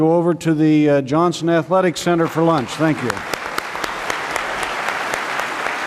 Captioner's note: applause